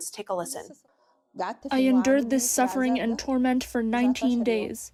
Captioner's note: through translator